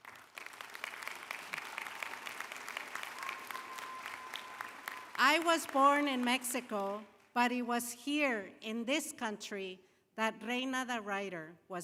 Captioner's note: applause